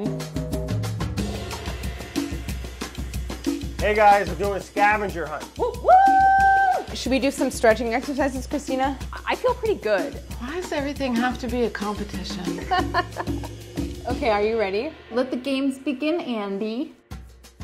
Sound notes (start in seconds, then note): 0.2 jazzy drum music; 5.6 loud cheering; 12.5 chuckles